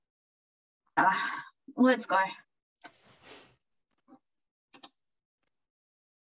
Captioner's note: sighs